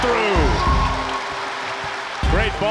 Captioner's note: cheering